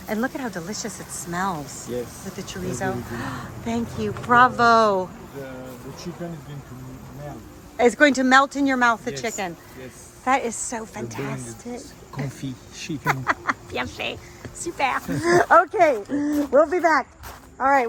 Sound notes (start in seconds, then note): 14.6 laughs